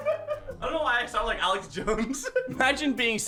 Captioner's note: laughs; laughs